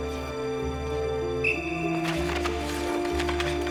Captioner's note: whistle blowing